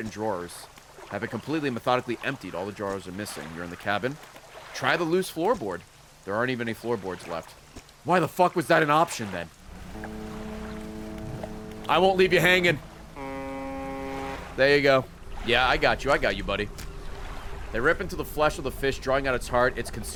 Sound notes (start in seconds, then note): 9.7 distant honk; 13.7 honk